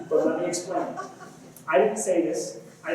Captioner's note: laughter